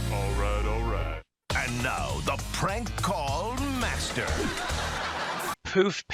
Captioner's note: canned laughter